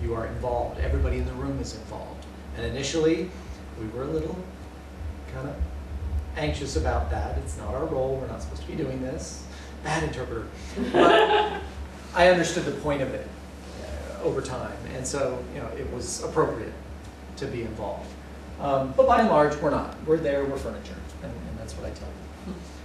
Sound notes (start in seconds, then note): 10.7 laughter